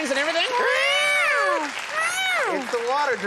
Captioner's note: imitating guitar squeal